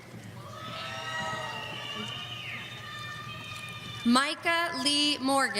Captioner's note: audience cheering